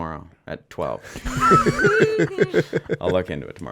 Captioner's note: group laughing